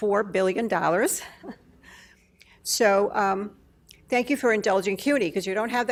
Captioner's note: laughs